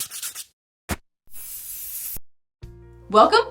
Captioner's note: graphics scribbling